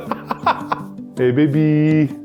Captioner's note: laughs